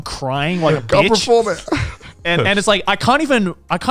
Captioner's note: sobbing